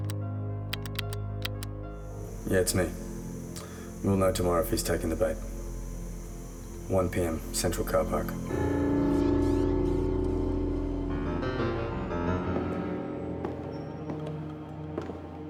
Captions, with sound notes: (dial pad clicking) Yeah, it's me. We'll know tomorrow if he's taken the bait. 1:00 p.m., central car park. (foreboding piano music)